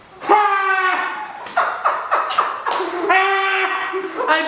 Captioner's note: Bottom cackles